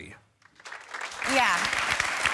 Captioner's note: clapping